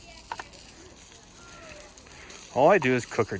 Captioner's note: fizzles